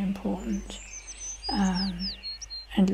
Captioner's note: bird singing